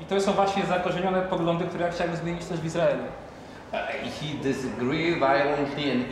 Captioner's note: speaking Polish